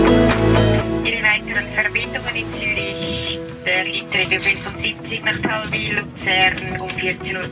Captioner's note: train announcer speaking in foreign language